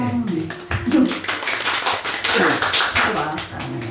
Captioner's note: applause